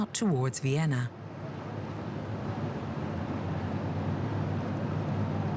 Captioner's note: boat engines whirring